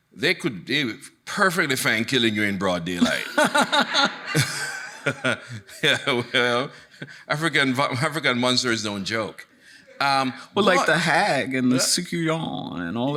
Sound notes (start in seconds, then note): 3.0 laughing; 3.0 chuckles; 3.0 audience laughing